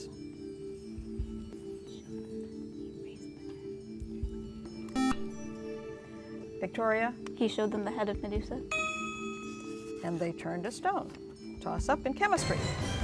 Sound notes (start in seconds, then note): 1.2 whispering; 4.9 buzzer; 8.7 ding